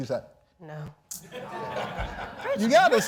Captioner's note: audience laughs